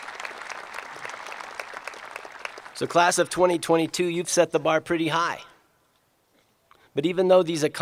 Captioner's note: applause